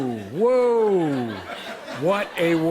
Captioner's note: laughter